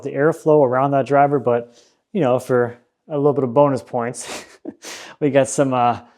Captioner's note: chuckles